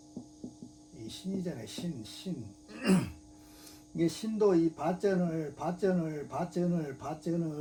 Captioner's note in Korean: 목을 가다듬음